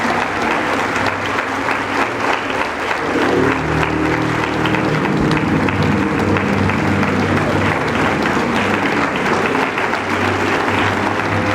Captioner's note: applause